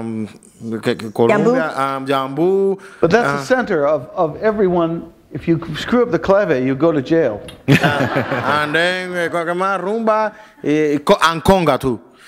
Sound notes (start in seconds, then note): 7.6 laughter